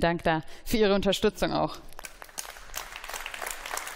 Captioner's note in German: Beifall